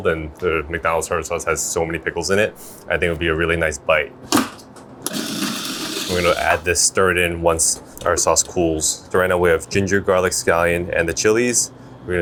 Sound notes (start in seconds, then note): 5.0 food processor whirring